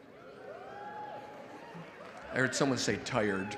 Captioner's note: audience cheering